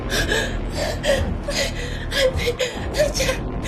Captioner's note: gasping; breathlessly